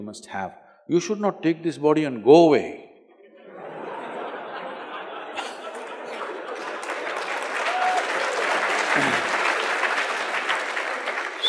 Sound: laughter/Applause

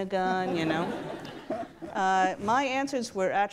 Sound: audience laughs

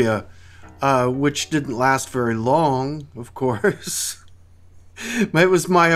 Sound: laughs

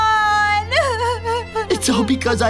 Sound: sobs

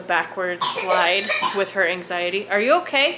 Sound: coughing

